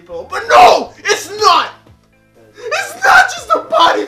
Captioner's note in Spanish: grita